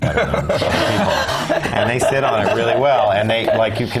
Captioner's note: laugh